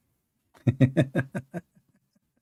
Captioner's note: Ketawa